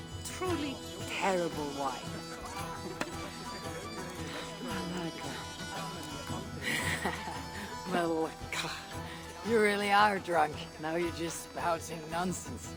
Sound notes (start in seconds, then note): 6.5 laughs